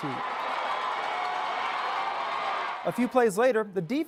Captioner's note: cheering